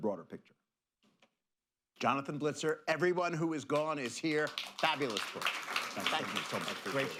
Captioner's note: applause